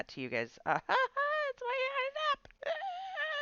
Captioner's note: laughs